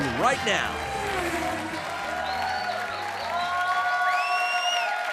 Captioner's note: car whirring